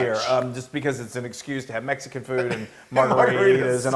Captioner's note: laugh